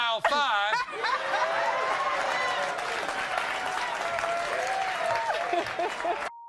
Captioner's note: audience cheering and applauding